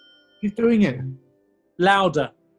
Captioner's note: alexa tone